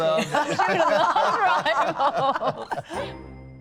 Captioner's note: laughter